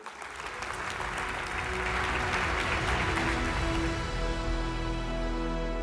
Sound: applause

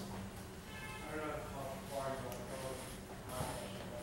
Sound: voiceover

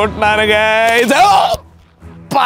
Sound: sounds of pain

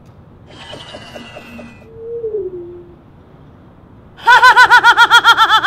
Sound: electric whooshing; hysterical laughing

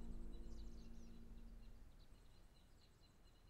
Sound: birds chirping

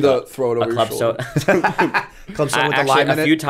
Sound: laughter

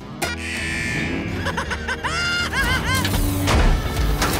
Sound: laughing

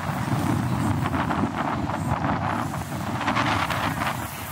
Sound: wind blowing

